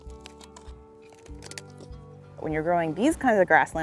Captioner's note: gentle music; plastic snapping